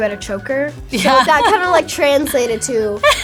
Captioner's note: laughs